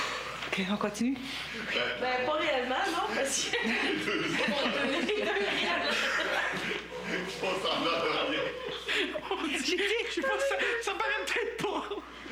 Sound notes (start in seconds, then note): 3.1 rires